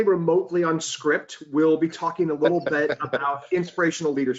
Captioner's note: chuckles